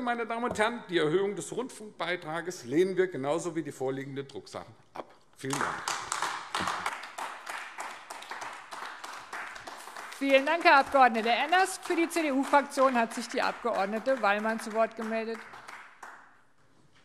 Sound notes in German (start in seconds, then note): 6.8 Beifall AfD